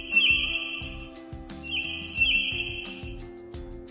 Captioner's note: bird chirping